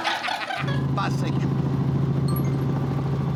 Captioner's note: phone chimes